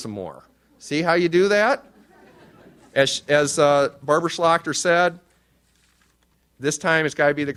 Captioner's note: audience laughs